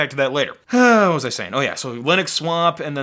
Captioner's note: sighing